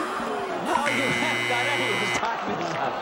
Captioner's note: buzzing